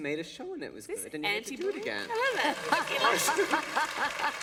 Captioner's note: laughter